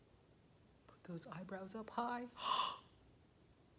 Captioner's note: gasps